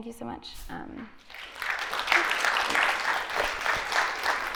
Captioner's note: applause